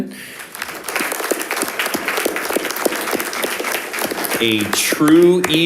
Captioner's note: audience applauding